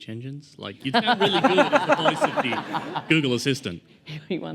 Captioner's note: laughter